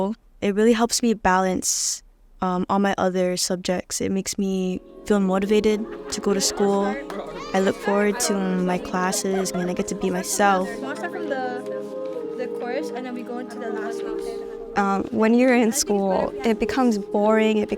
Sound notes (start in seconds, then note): 10.8 chatter